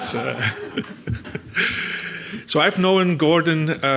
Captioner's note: audience laughs; laughs